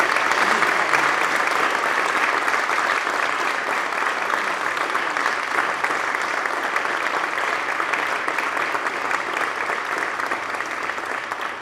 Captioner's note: applause